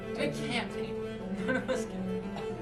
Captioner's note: delerious laugh